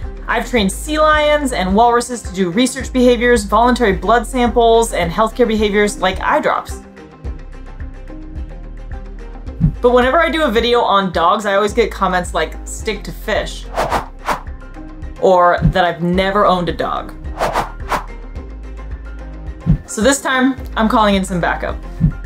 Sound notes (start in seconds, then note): 7.1 background music; 13.6 rapid whooshing sound effects; 13.8 background music; 17.3 background music; 17.3 rapid whooshing sound effects; 18.4 background music